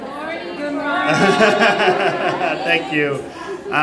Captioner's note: laughing